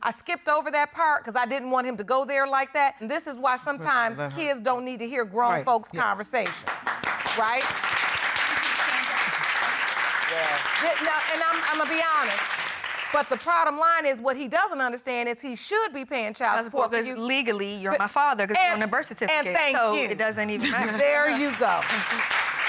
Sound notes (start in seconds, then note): 6.4 applause